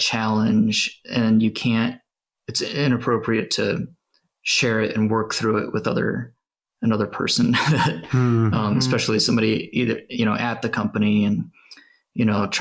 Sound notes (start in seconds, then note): 7.9 sighs